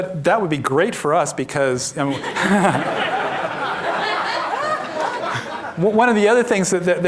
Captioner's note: laughter